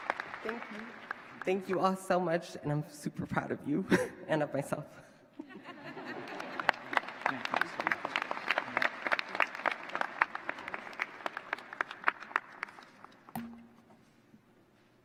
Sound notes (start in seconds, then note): 5.3 laughter; 9.7 applause